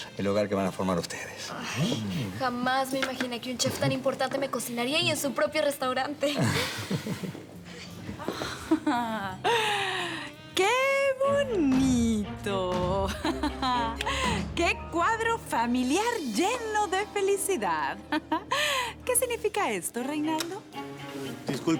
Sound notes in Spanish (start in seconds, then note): 6.3 Risas; 17.1 Ríe